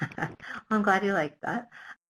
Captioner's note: laughs